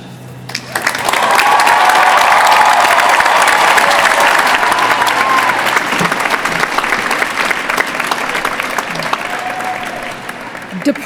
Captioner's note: applause